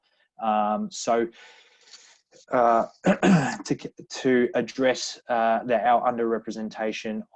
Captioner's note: clears throat